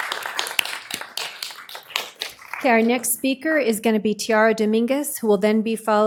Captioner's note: applause